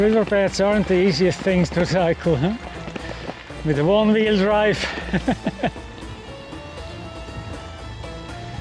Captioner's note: laughter